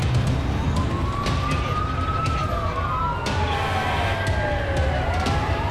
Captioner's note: siren wailing